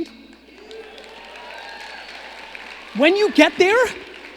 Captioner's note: audience agreeing